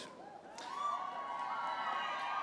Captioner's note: applause